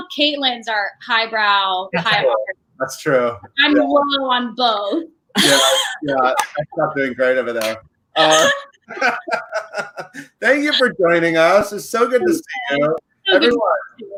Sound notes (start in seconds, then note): 5.1 laughing; 5.1 voice muffled